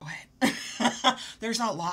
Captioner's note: laughs